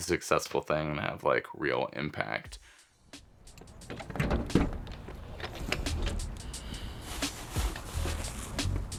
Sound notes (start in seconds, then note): 3.6 trunk opening; 6.7 plastic bags rustling